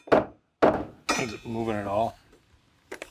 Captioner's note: hammer pounding